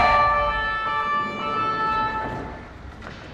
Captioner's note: siren stops; tires screech